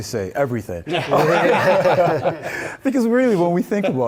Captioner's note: laugh